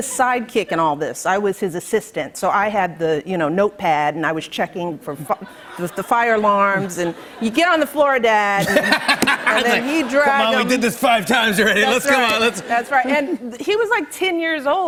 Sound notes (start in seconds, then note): 8.5 laughter